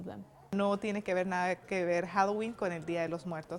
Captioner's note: non-english speech